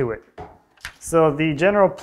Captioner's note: hand taps